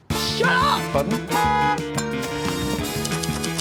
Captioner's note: clinks; honks; typewriter keys clicking